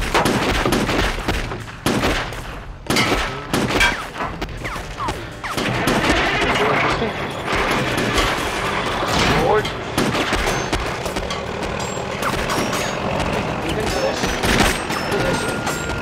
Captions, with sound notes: [ Engine Starts ] THIS WILL BE INTERESTING. FORWARD. I THINK THIS... AND THIS.